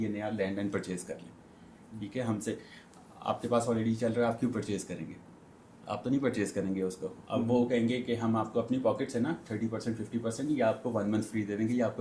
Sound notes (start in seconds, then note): none